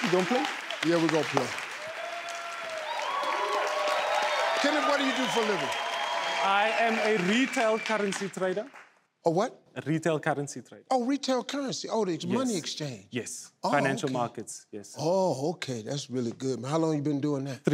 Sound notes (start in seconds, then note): 1.7 fan cheers; 3.0 clapping